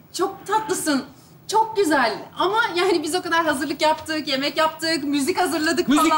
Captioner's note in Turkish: none